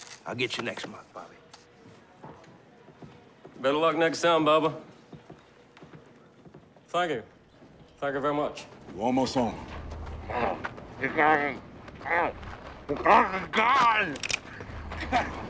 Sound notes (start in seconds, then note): 10.1 grunts